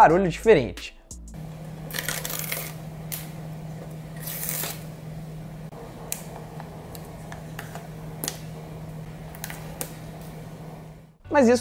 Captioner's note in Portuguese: Som diferente ao abrir as caixas